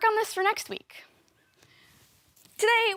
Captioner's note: soft breathing